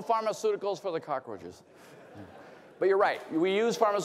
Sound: laughter

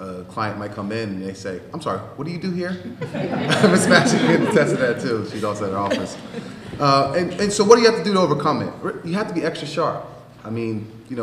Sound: laughter

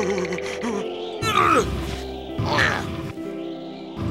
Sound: shivering; grunting

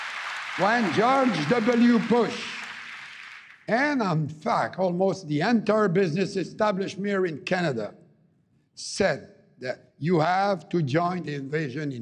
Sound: cheering and APPLAUSE

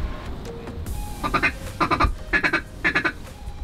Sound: duck calling

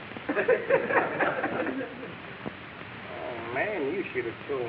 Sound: audience laughing

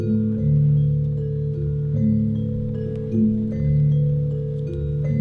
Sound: dampened gongs sounds

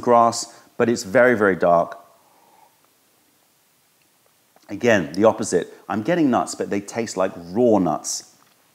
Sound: sips tea

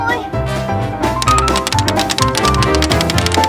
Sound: tools hammering; quick jazz music

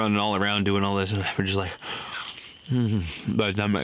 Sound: wet chomping

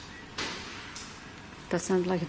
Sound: bang

